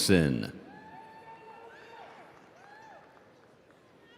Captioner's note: audience cheering